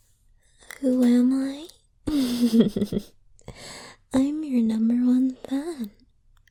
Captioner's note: giggles